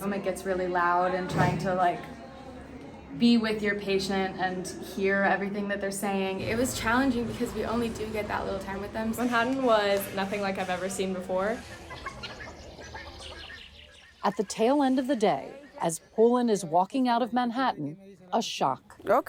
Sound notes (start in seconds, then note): 11.5 wildlife chirping